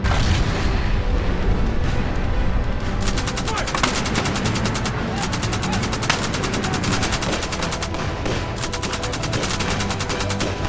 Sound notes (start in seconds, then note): 3.0 gunfire rattling